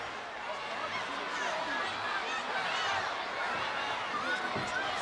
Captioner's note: crowd chattering